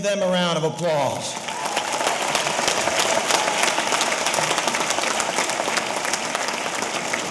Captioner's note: audience applauding; audience cheering